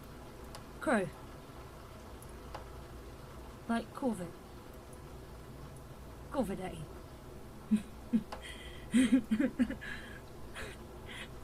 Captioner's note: laughing